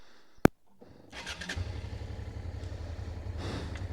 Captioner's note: engine starts